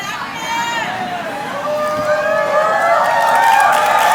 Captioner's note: cheering